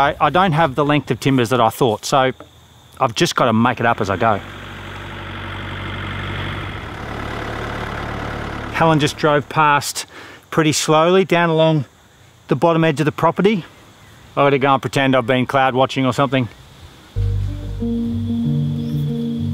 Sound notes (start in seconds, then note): 5.9 tractor